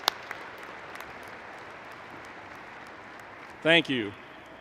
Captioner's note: applause